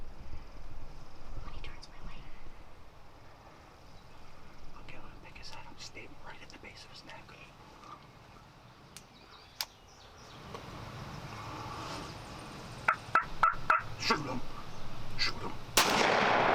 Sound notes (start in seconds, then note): 9.4 safety clicks; 12.8 turkey call chirps; 15.7 rifle bangs